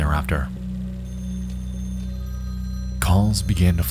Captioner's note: phone rings